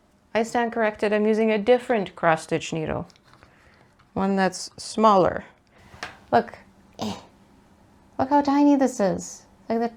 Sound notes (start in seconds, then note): 7.0 lil gremlin grunt